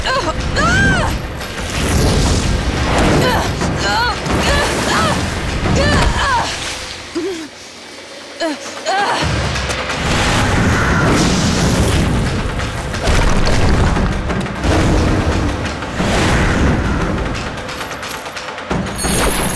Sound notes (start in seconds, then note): 0.6 screaming; 2.5 groaning